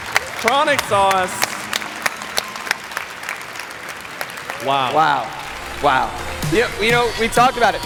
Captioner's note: applause